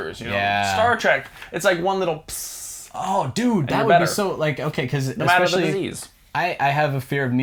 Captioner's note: pssh